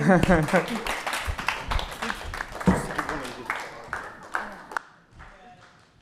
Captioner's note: applause